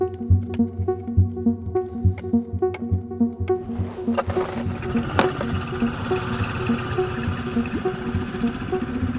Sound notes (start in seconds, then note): 3.6 boat engine starts off